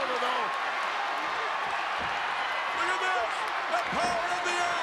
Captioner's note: applause